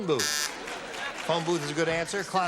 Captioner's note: buzzer